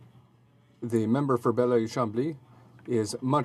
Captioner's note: speaking in French